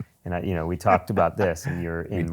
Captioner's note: laughs